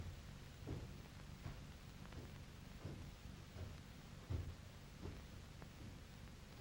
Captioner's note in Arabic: خطوات على الدرج